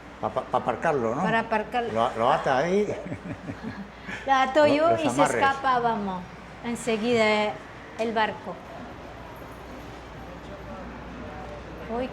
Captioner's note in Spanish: risas